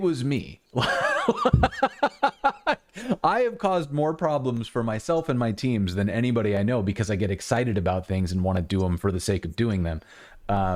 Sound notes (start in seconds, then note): 0.8 laughter